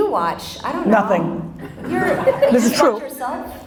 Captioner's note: audience laughter